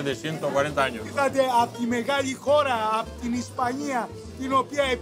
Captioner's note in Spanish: en griego